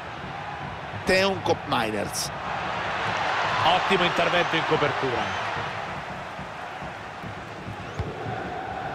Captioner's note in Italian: Applauso